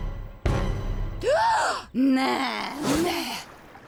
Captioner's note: courtney gasps